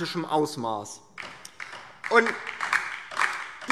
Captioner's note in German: Beifall